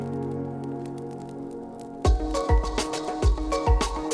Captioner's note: fire burning